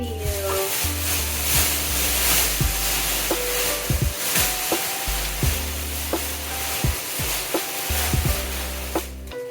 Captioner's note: plastic wrapper noises